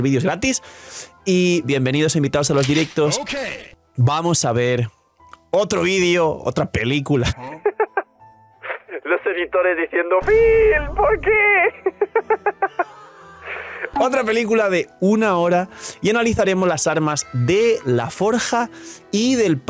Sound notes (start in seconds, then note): 11.6 laughs